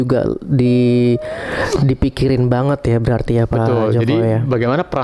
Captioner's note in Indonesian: terkesiap